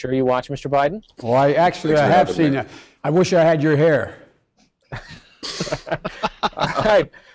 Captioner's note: laughing